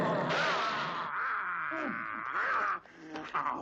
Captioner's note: gun banging